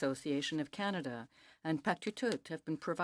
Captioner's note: speaking French